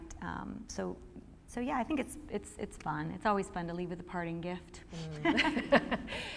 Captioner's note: laughing